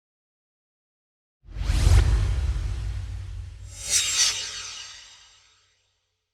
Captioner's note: swoosh